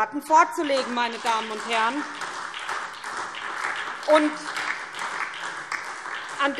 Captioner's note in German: Beifall SPD